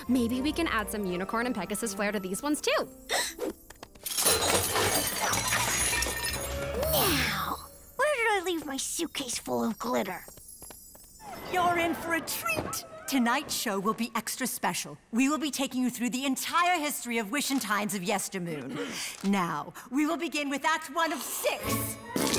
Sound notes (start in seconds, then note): 3.1 gasps; 3.9 clattering